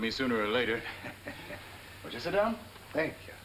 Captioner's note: chuckling